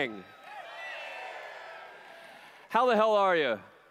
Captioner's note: cheers